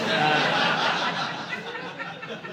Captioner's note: audience laughing